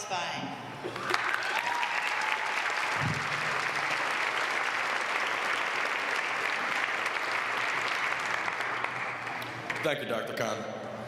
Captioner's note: applause